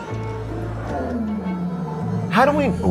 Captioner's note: deer caller bellowing